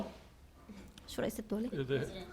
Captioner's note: speaking arabic